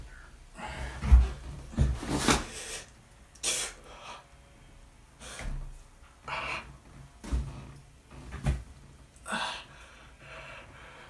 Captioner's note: groan... deep labored breath